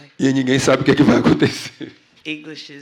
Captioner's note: speaking portuguese